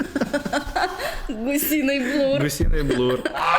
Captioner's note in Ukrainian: сміх